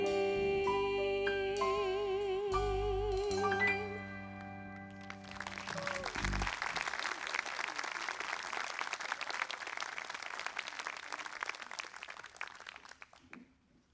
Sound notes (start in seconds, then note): 4.8 applause